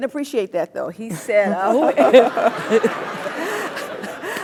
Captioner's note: laugh